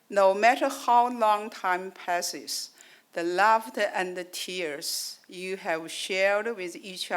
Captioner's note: none